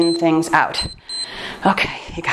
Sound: timer beeps

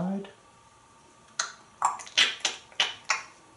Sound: clicking sound

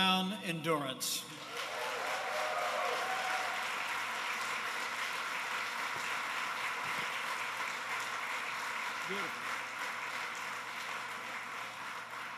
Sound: applause

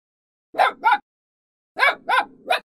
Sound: puppy barking

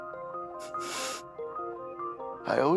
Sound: sniffs

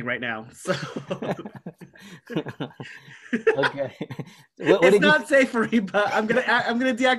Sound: laughter

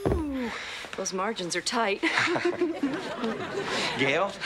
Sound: gentle percussion; audience laughing; laughs

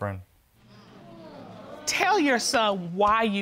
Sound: audience groans

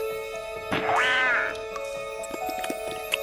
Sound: roach crunching; sound effect buzzing; light piano music

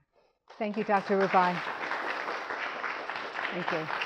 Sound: audience applauding

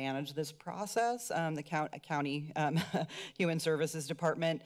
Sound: giggles

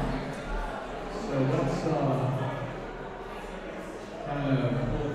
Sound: general chatter

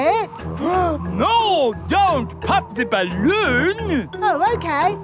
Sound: gasps

